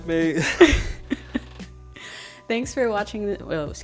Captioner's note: laughing together